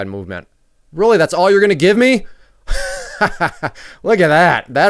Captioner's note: laughs